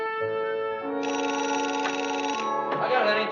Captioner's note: phone rings